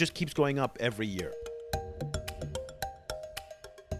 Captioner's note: voiceover